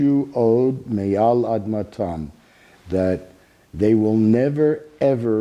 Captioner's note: speaking Hebrew